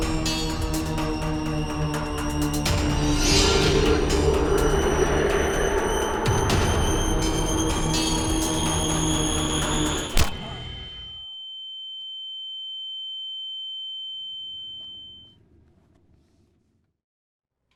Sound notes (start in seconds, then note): 10.1 thud; 11.4 high pitch whine